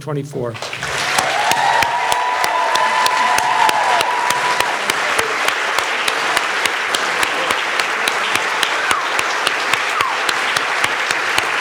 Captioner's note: all applauding